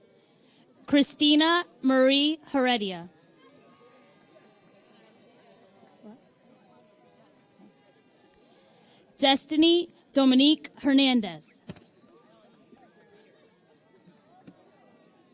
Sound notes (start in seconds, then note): none